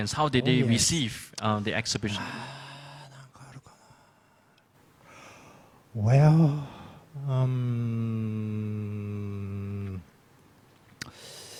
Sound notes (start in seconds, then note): 3.4 speaks in foreign language